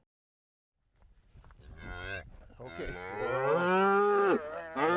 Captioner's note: mooing